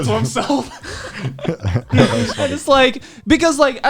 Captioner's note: laughs